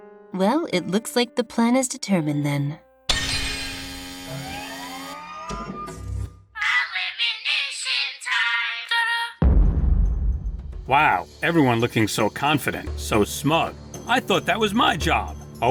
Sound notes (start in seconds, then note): 3.2 buzzzzzz!; 9.4 boom